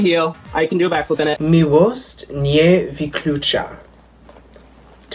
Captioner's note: speaking Polish